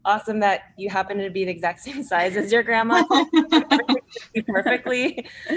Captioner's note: laughs